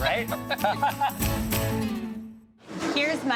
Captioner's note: both laugh cheerfully